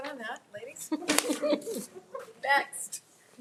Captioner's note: people laughing